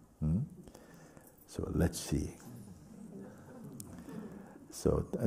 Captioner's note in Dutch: gelach